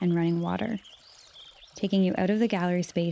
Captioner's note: birds and running water